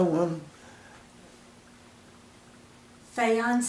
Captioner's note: pause